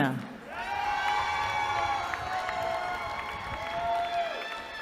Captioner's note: cheering